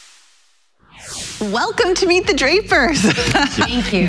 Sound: laughs

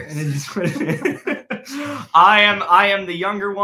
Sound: laughing

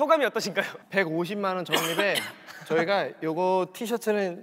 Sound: cough

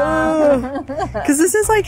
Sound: laughs

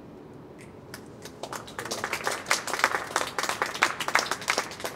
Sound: clapping

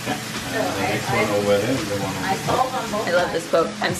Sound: food sizzling

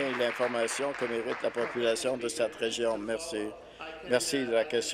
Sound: applause

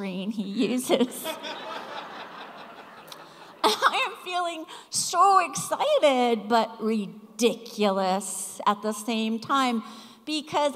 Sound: laughter

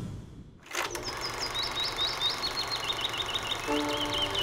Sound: film Projector Rolling; birds Chirping

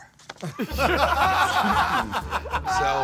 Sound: Murr and Q laughing

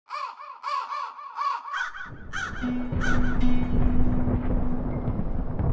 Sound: thunder rolling; crows caw

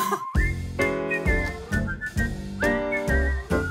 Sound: whistling

